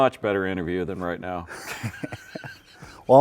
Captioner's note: both laughing